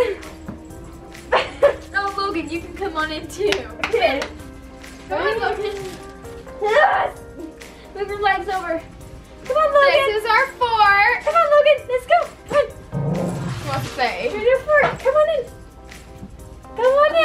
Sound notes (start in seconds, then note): 1.2 laughs; 12.9 growls